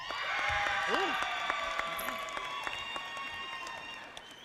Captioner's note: audience applauding